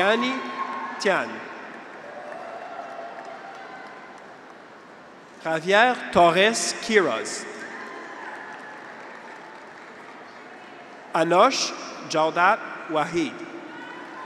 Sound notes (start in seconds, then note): 2.7 graduates cheer; 7.8 audience applauds